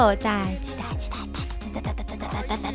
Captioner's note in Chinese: 嘻嘻